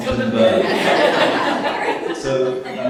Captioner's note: all laughing